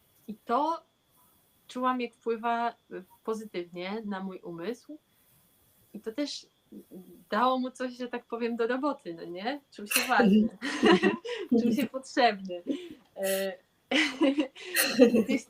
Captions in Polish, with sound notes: i to czułam Jak wpływa pozytywnie na mój umysł i to też dało mu coś że tak powiem do roboty no nie czym się waży czy mi się potrzebny [śmiech]